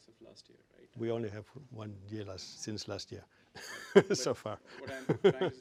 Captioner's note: laugh